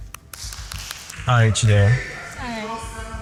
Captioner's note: clapping